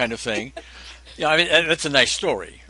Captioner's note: laughs